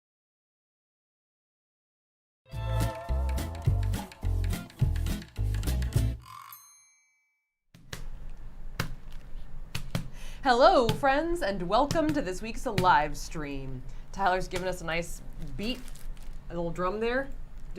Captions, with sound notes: (cheerful music) (tortilla clapping) - Hello, friends and welcome to this week's live stream. Tyler's giving us a nice beat, a little drum there.